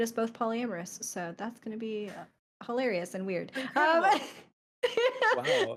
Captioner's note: laughs